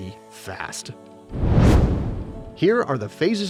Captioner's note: meteor swishes